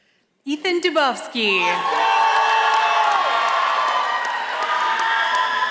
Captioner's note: audience applauding